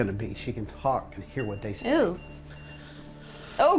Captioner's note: EMF beeping